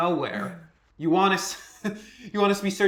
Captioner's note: chuckles